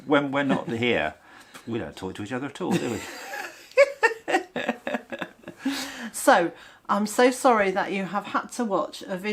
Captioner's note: laughter